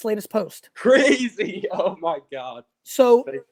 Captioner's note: laughs